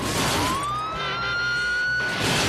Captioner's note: tires screeching; smashes; sirens blaring; smashes